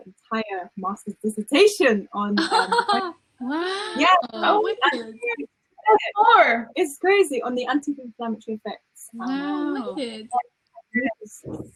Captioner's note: laughter, wow, oh no way!